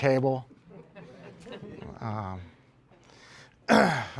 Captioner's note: laughter